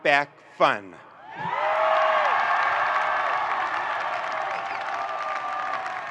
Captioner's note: audience applauding and cheering